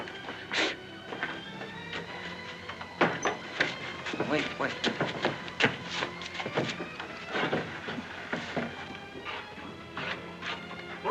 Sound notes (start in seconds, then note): 0.2 suspenseful music; 2.9 door closes; 5.8 suspenseful music